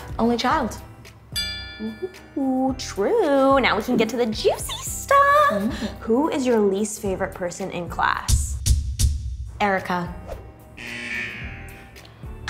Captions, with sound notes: - Only child. (bell chime) - Ooh true! Now we can get to the juicy stuff! Who is your least favorite person in class? - Erika. (loud buzzer)